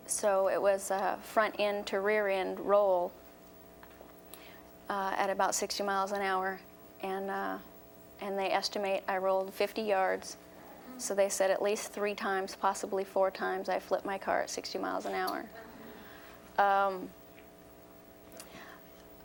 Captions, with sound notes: So it was a front-end to rear-end roll at about 60 miles an hour, and they estimate I rolled 50 yards. So they said at least three times, possibly four times, I flipped my car at 60 miles an hour. (audience gasps)